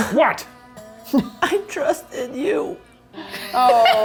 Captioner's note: voice breaking